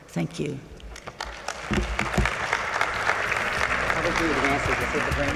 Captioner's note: audience clapping